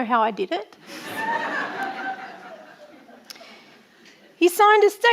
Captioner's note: audience laughing